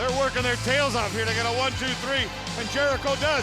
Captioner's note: crowd cheering